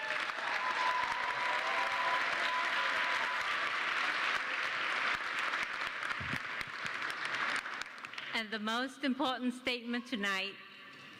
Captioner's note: applause